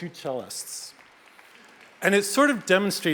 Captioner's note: audience applauds